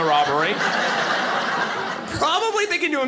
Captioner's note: audience laughing